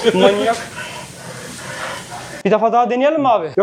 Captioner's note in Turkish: Köpek nefes nefese